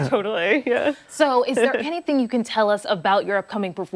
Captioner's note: laughter